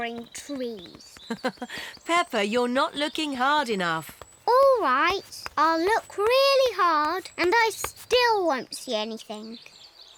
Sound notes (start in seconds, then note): 1.2 laughs